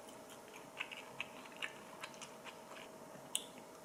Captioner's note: nom, nom